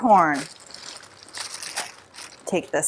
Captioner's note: bag rustling